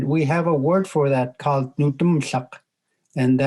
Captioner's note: speaking in Native language